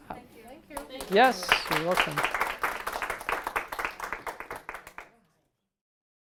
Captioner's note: applause